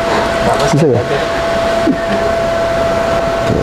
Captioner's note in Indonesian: tertawa kecil; tertawa kecil